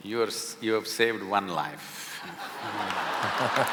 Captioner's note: applause